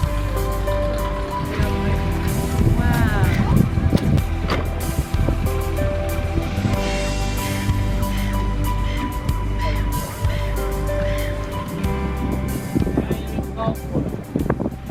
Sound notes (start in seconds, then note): 7.6 birds chittering; 7.6 upbeat music